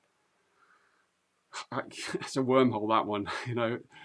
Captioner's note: chuckles